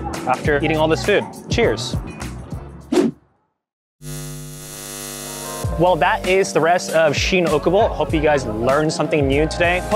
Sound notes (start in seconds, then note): 3.0 screen whooshing; 4.0 eyes buzzing